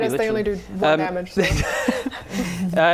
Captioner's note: laughing